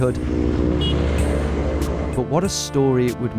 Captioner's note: horn honks